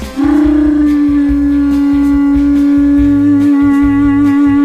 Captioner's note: seashell blowing